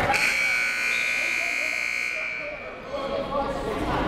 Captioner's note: buzzer blaring